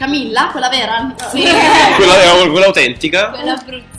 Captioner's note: laugh